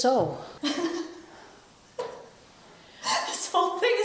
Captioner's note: Alice laughing